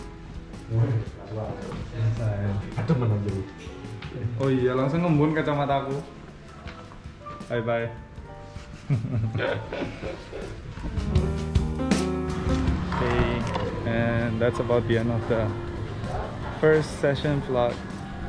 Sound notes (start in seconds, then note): 8.6 laughs